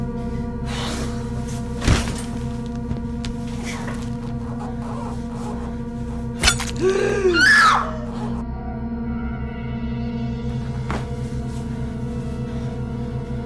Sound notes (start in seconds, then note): 6.4 Paige screaming; 9.9 dramatic music